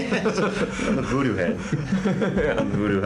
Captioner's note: laughing